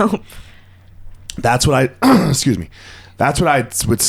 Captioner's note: clears throat